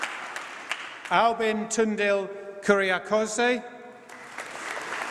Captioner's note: applause